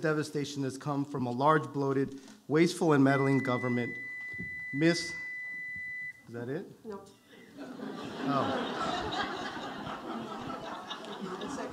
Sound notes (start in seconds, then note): 3.0 beep; 7.4 audience laughing